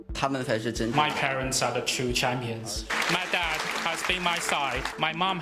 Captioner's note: clapping